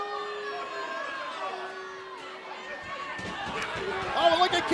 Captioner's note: cheers and boos